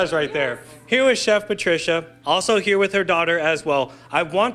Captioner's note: laughter